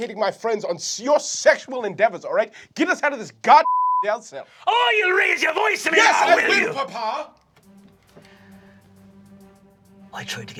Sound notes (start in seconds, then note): 3.6 beep; 7.6 tense music